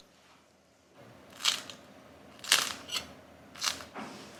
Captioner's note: Crunch